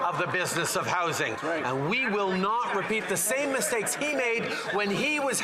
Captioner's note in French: voix de l'interprète